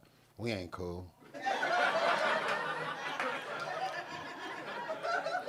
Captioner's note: audience laughing